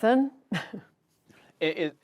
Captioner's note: laughter